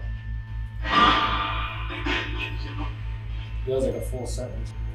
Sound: radio noise reverberating

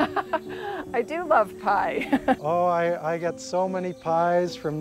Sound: laughs

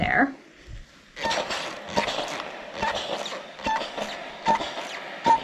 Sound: steam iron whooshing

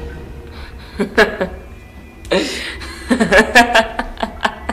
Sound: Nicole laughs

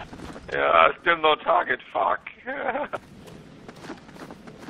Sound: laughter

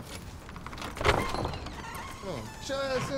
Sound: door opens

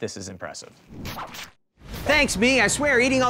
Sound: disc scratch

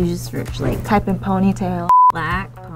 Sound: beeps

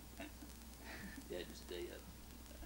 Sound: chuckles

